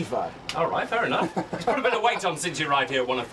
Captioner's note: laugh